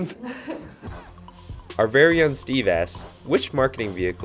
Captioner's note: voiceover